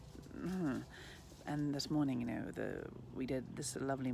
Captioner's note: groans